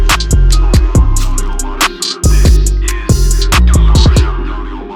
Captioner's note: distorted voices echoing